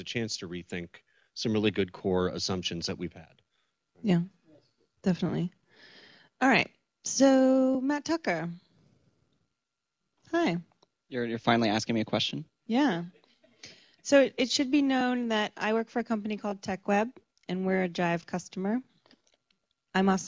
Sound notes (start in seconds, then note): 8.7 pause